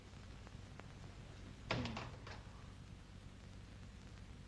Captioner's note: door closes